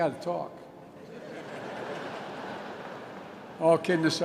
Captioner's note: laughter